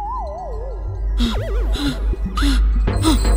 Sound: nervous panting

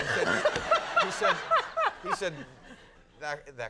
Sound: Conan chuckling

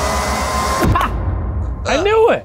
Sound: dramatic, intense music; laughing and clapping

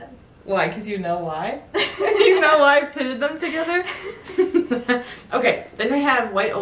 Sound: laughing

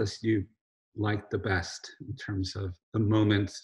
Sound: none

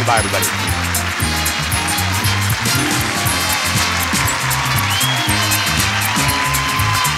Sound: upbeat music; audience cheering

